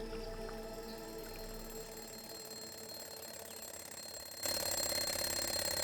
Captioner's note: alarm clock ringing